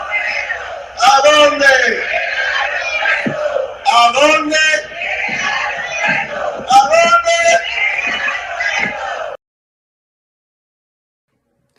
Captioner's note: chanting